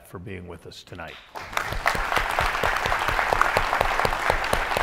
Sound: audience applauds

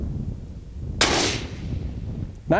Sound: rifle shot

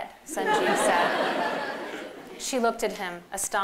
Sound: laughter

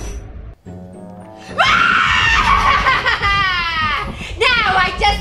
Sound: laughing evilly

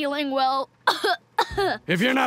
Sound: coughing

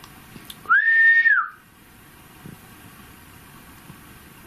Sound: whistles

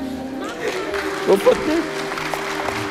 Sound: applause

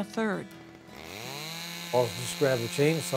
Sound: chainsaw

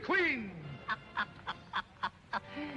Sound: puppet laughing

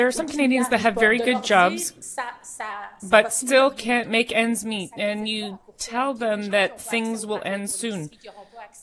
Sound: speaking French

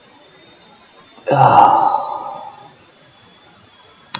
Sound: sigh

